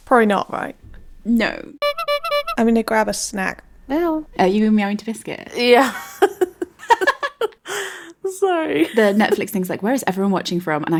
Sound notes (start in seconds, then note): 1.8 clown horn; 5.9 laughing